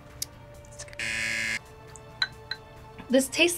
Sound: buzzer rings

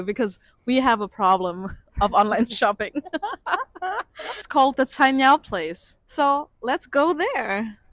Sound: laughter

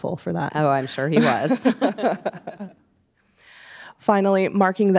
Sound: both laughing

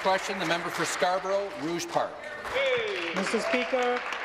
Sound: applause

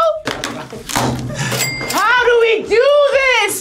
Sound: cash register dings

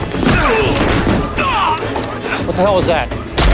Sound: punch and fall sound

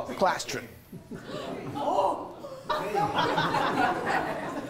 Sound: laughing

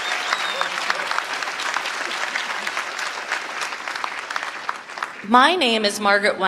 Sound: applause

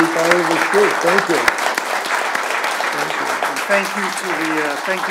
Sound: audience applauds

